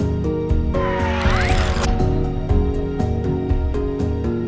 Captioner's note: upbeat music; missile whistles